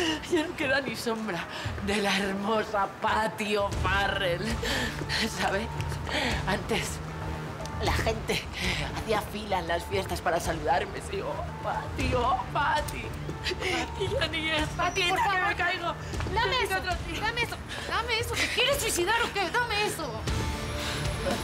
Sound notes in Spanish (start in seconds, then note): 13.4 Sollozos